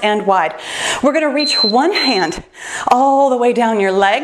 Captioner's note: timer beeps